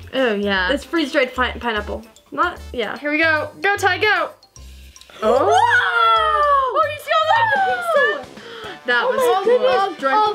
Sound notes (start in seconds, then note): 5.2 both girls exclaiming